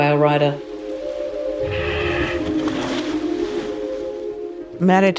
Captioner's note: tranquil music; water splashing